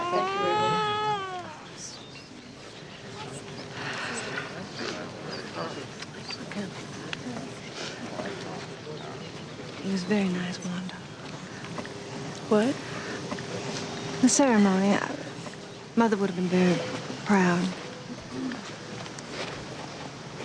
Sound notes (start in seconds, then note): 0.0 Ruby cooing; 4.3 Sarah sighs